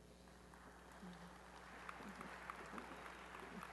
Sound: applause

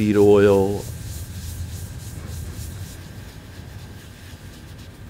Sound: light scraping

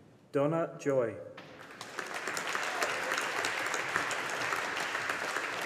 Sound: audience applauding

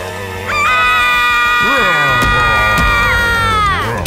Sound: screams; screaming

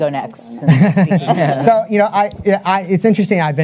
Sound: panelists chuckle

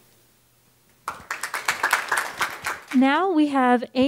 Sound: applause

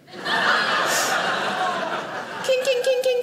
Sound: audience laughing

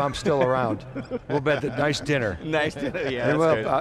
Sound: laughing

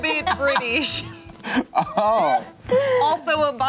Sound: laughter

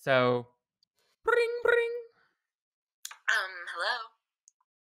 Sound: imitates phone ringing

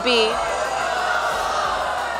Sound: crowd

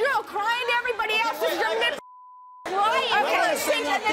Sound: beeping

